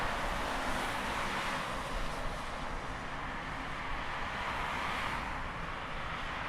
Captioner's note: traffic noise